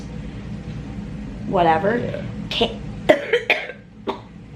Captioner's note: coughing